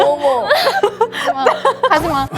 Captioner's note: pat, pat